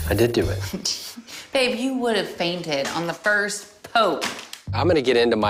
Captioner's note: laughs